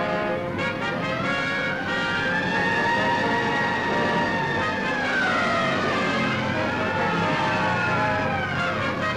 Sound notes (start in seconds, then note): 0.8 sirens blaring